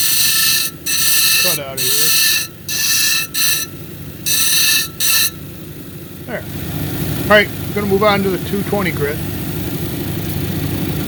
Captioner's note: grinding